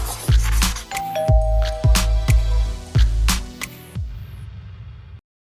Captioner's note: doorbell chiming